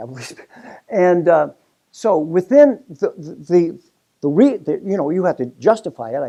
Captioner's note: laugh